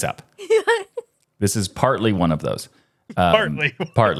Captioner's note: laughing